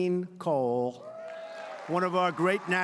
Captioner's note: applause